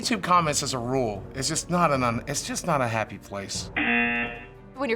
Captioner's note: buzzer